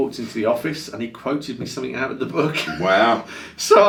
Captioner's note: laughs